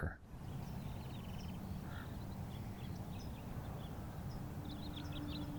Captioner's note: birds chirping